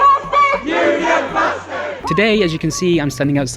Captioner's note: crowd